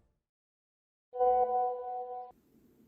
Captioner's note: message alert tone